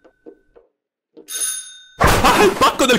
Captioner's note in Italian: suonano al campanello